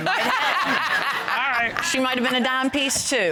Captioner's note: all laughing